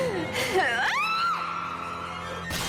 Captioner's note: screams